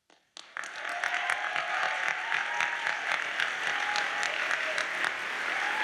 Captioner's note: audience cheers and applauds